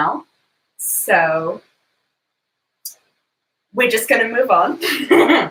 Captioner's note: laughs